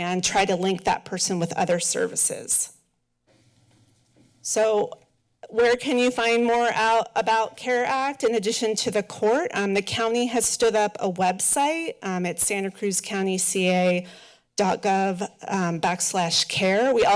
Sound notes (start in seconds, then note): 3.1 pause